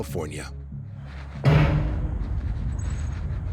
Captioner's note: metal banging